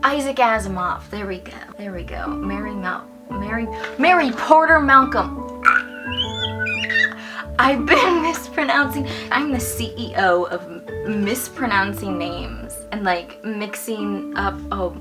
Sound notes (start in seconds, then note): 5.6 screeches